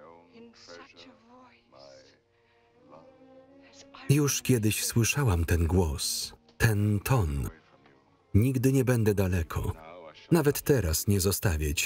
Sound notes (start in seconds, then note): none